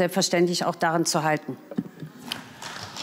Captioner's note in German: Beifall